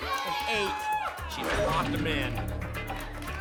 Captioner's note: lock sound